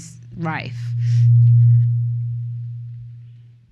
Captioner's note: microphone feedback